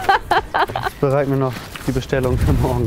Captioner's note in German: Lachen